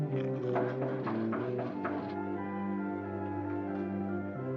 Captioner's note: crunching; knocking on door